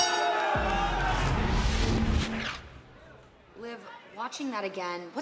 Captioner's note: bell ringing; crowd chatter